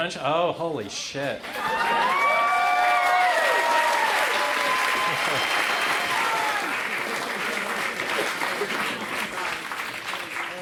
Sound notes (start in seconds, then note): 2.3 crowd cheers